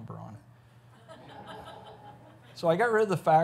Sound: audience laughs

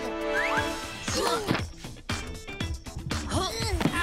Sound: grunting

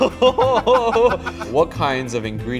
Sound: laughter

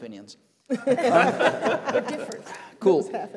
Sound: laughter

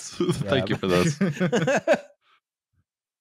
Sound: laughter

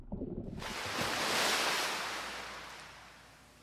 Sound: waves Crashing

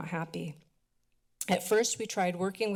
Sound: clicks tongue

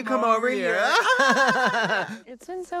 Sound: blonde women laugh maniacally

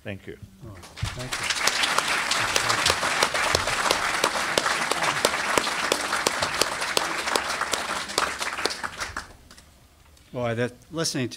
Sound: applause

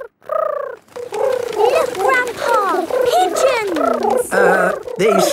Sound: pigeons cooing

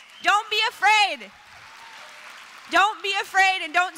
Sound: applause

